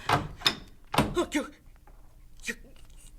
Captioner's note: door opens; gasps